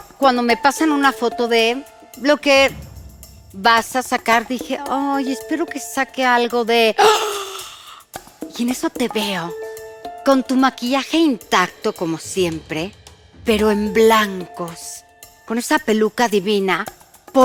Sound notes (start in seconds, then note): 7.2 gasp